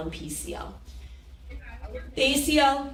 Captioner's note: people chattering